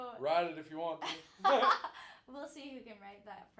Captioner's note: both laughing